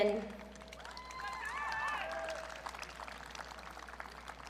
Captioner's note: audience cheering